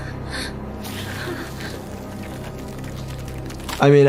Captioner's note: ash fluttering